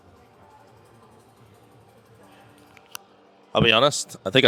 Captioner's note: man speaking in a foreign language